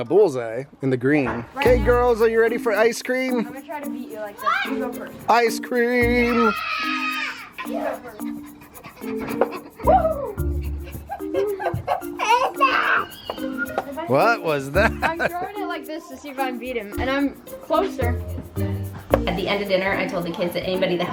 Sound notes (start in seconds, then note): 6.1 singing out the words; 6.1 girls cheering ecstatically; 9.1 girls panting excitedly; 14.6 laughing